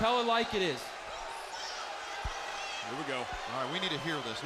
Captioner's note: crowd chatter